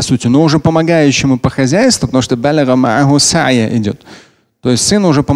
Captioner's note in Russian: говорит на арабском